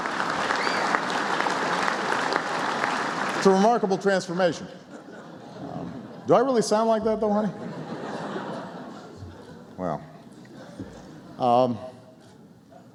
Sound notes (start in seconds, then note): 3.3 laughter; 5.1 applause